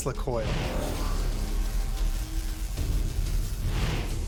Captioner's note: electricity buzzing